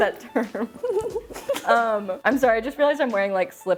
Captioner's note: laughing softly